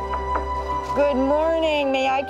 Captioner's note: door knocks